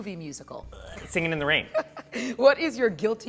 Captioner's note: laughing